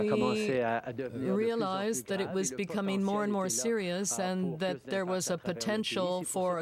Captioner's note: speaking french